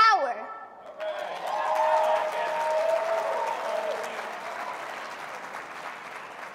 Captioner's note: audience clapping and cheering